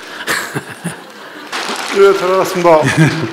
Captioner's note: audience/ Laughter; laughter/Audience Applause